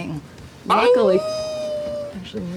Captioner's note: screams